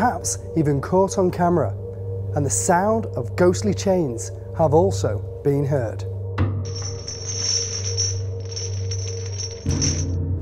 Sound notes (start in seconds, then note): 6.6 chains rattle